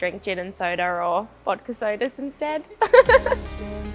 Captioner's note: laughs